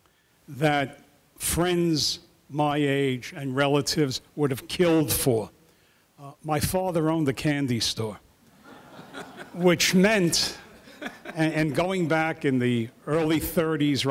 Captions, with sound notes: that friends my age and relatives would have killed for. My father owned a candy store. (audience laughing) Which meant, and going back in the early 30s